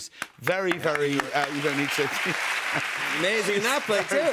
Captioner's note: cheers and applause